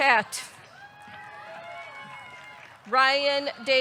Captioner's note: audience cheering; audience clapping